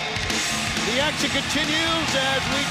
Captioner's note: crowd cheering